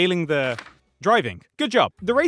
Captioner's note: page turn